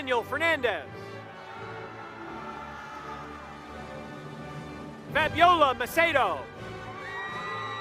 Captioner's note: applause; applause